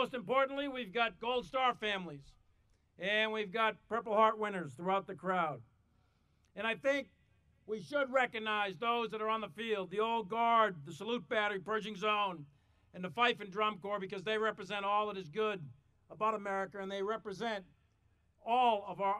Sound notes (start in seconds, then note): none